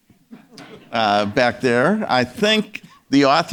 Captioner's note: audience members laughing